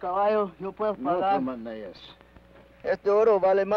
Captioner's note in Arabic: الأمريكي الأصلي يتحدث لغة أجنبية; بن يتحدث لغة أجنبية; الأمريكي الأصلي يتحدث لغة أجنبية